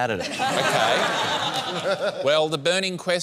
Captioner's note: laughter